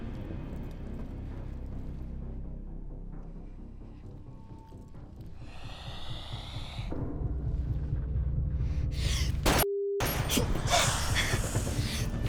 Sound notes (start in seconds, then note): 5.1 spider hissing; 9.4 gun firing; 10.5 panting